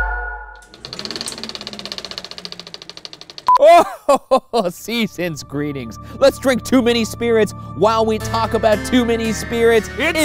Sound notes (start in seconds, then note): 0.6 film reeling; 3.6 laughing